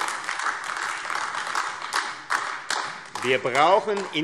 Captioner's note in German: Beifall AfD